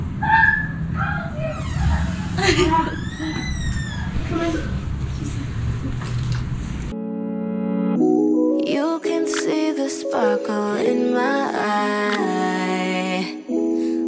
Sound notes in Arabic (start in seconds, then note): 2.4 ضحكة خافتة; 2.6 صرير الباب